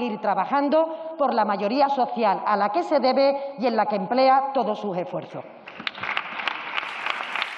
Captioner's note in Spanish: Aplausos